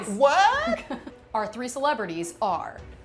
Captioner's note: laughing